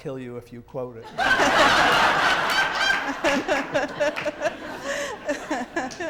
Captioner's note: laughter